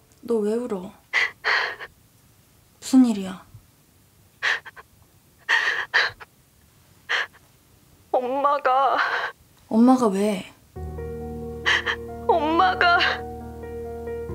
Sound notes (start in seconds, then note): 5.5 Hyun-jung crying